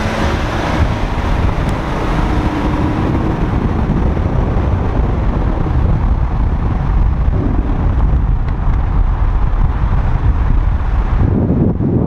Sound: running engines

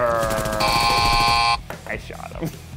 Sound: buzzer

